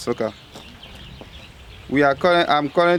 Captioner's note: birds chirping